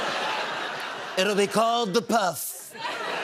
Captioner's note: laughter; as Trump; laughter